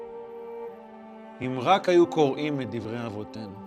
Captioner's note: speaking in Hebrew